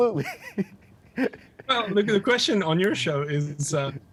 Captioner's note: laughs genuinely